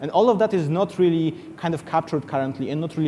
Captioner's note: none